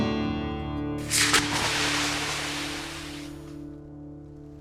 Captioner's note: brand sizzling